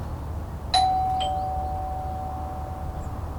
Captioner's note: door bell ring